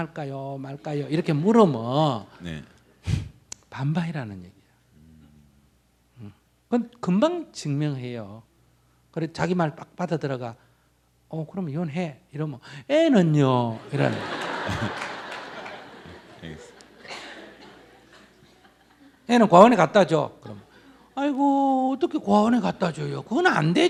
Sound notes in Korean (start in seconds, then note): 13.8 청중 웃음